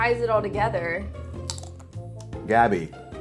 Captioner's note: crunching chip